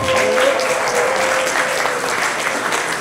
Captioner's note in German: Vereinzelte Jubelrufe